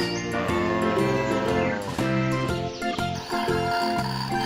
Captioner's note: cows moo